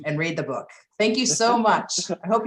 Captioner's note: laughter